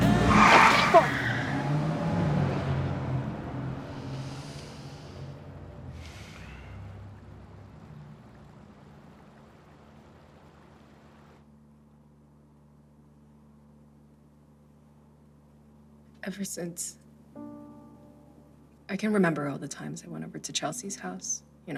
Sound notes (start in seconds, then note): 0.0 car engine screeches; 4.0 Jimmy sighs